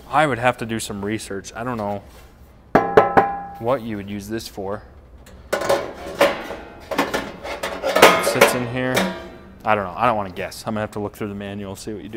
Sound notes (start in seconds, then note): 5.4 grill rattling